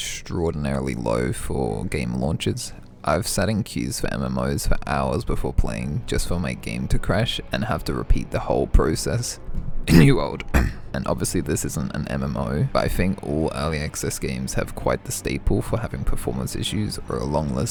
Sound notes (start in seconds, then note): 9.8 cough